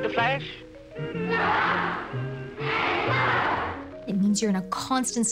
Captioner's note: children's voices